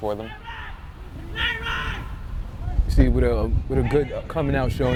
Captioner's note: players shouting